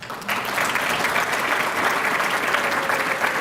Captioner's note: applause